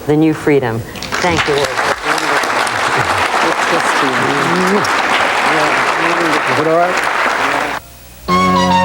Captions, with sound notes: The New Freedom. Thank you Ward. (applause)